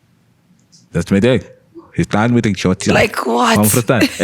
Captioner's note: murmur in accent